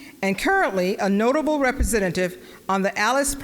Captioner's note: none